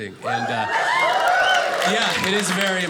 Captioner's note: audience cheers